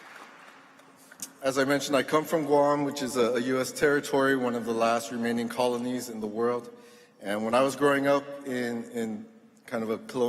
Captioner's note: applause